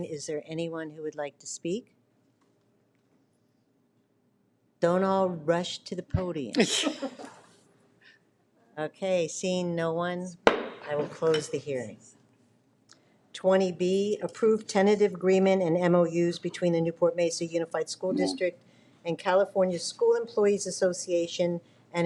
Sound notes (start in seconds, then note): 6.6 people laughing; 10.5 slams gavel